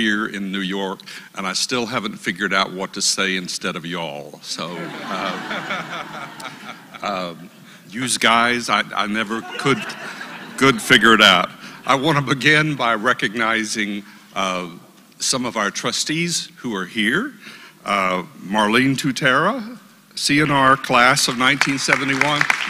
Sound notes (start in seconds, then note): 4.6 laugh